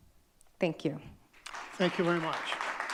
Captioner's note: audience clapping